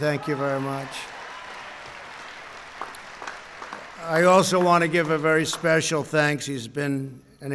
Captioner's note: applause